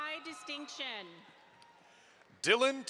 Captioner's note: audience applauds